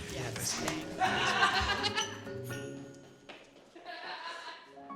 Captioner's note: laughs wickedly